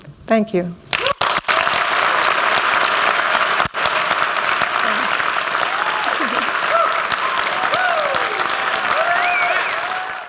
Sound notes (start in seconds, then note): 1.5 applause